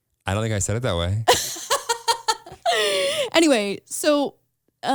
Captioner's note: laughs